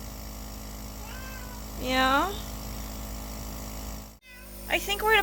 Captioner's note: Chester meows